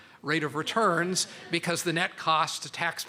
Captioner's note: laughter